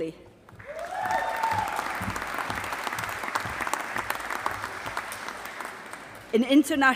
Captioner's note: applause